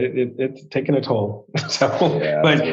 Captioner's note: laughs